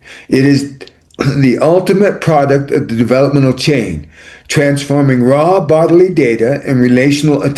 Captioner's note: clears throat